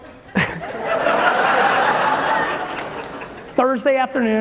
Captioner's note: audience laughing loudly